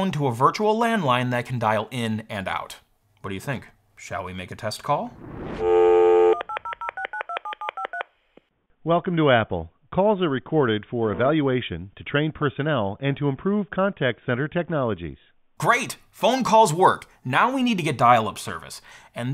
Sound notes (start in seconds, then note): 5.5 dial tone humming; 6.3 keypad beeping; 8.8 automated Voice